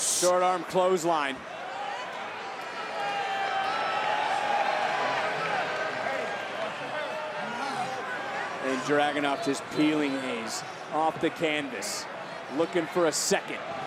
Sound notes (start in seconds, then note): 3.4 applause